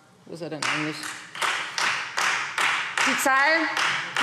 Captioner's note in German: Beifall Freie Demokraten